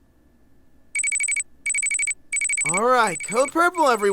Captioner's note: alarm going off